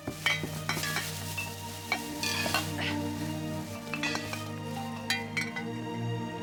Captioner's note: plastic rustling; gentle music; glass clinking